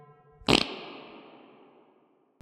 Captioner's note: farts